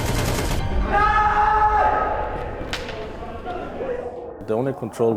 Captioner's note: gunshots ringing out; person yelling